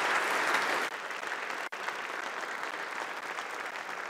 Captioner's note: applause